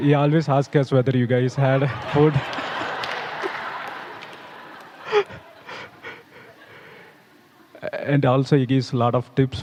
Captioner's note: laughter